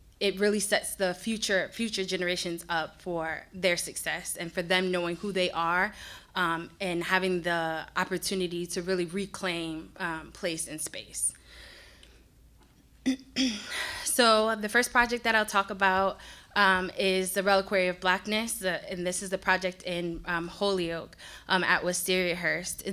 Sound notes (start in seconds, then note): 13.0 clears throat